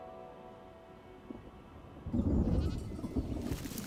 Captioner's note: animal bells ringing; thunder rumbling